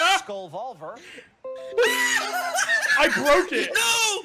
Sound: Windows notification sound plays; screams

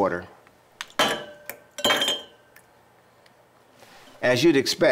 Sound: bobber clanking against glass

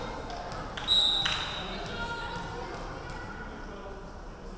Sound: referee whistling

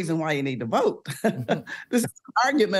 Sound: chuckles

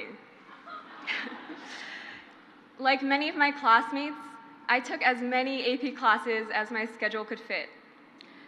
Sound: crowd laughs

